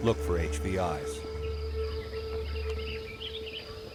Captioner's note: birds chirping